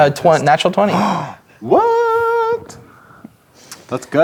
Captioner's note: gasps